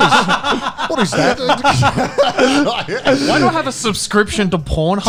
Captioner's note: laughing